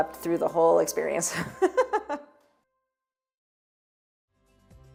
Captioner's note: chuckling